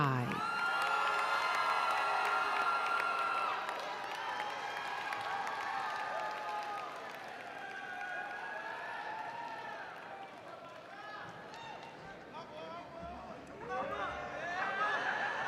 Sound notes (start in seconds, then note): 1.6 audience cheering and applauding